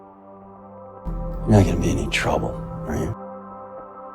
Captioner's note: voiceover